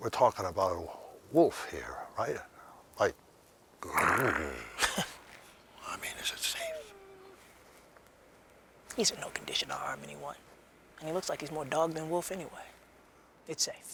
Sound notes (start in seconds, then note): 3.8 growls; 4.0 Spencer chuckles; 6.8 dog whimpers